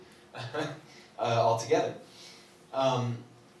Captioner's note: laughs